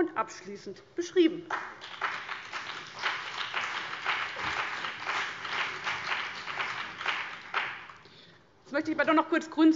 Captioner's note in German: Beifall CDU und BÜNDNIS 90/DIE GRÜNEN